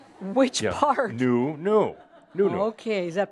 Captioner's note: more chuckles